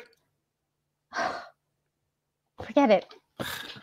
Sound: Janet sighs

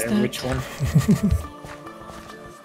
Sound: sounds of Amusement

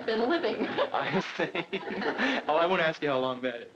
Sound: laughing

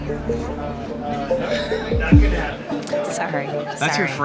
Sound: laughs

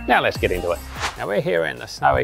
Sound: air whooshing

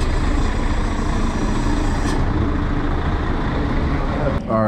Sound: bus engine

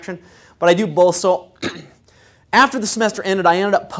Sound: cough

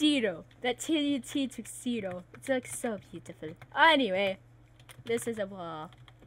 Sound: none

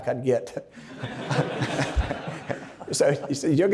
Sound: everybody laughing

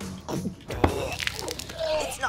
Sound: puking

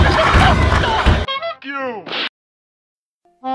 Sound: hOnK

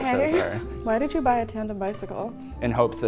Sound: laughs

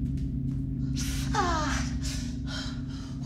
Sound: exclaims in pain

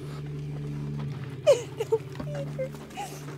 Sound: cries

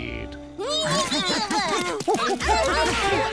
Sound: grunting

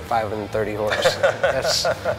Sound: laughs

